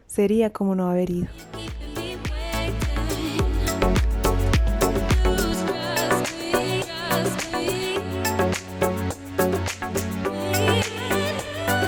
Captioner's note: applause